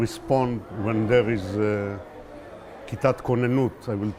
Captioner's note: hebrew